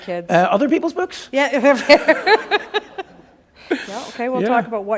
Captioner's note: laughter